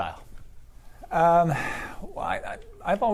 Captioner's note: sighs